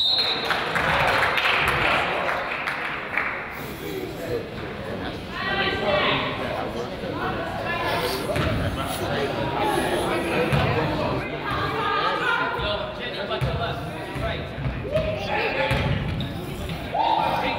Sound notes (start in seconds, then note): 0.0 whistle blows; 0.0 crowd applauds; 5.7 coach yells; 5.7 crowd chatters